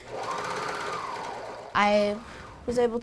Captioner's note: sewing machine whirls